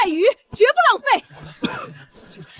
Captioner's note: cough cough